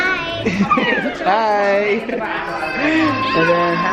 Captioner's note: laughs